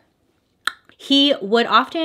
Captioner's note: tongue click